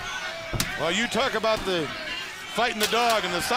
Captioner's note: crowd chatter